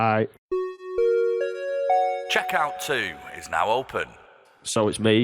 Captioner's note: chime